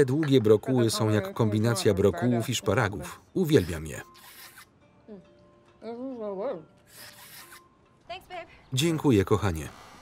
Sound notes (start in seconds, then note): 4.0 slurping